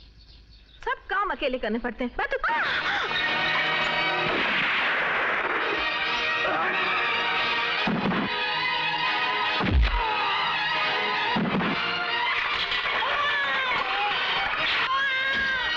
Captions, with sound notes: I've to do everything alone... (Gasps) (Gunshot) (Baby crying)